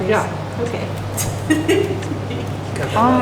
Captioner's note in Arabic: ضحك